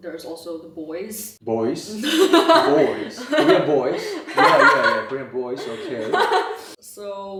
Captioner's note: laugh